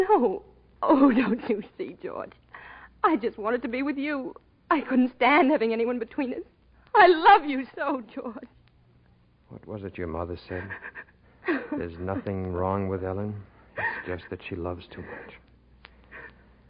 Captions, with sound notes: No, oh, don't you see, George? I just wanted to be with you. I couldn't stand having anyone between us. I love you so, George. What was it your mother said? (Ellen sobs) There's nothing wrong with Ellen. It's just that she loves too much.